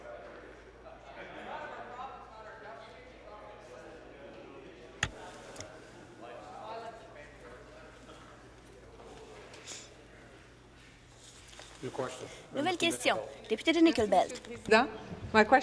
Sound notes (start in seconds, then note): 2.4 conversation din